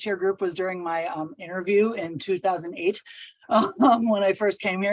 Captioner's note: chuckles